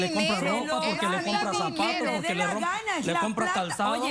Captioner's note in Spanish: Hablan al unísono